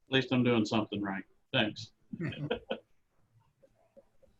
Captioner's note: laughing